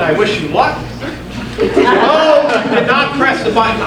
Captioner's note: audience laughing